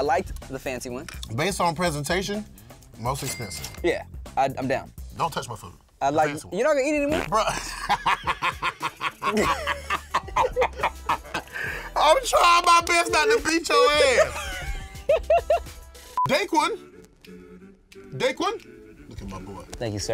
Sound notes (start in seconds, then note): 7.1 laughs; 13.9 laughs